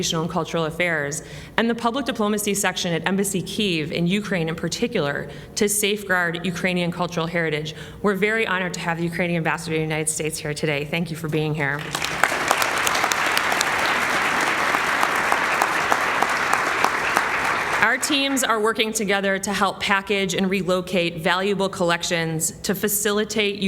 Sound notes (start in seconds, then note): 16.6 applause